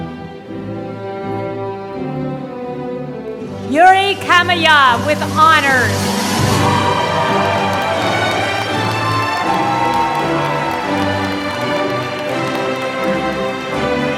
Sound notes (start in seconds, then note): 6.1 applause